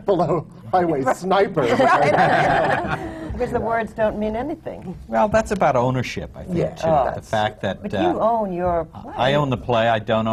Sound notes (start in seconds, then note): 1.6 laughter